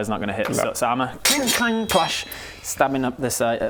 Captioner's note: cling clang clash!